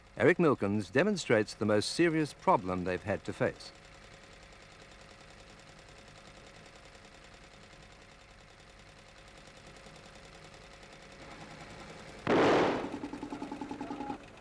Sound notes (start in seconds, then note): 4.1 engine idles; 12.2 loud bang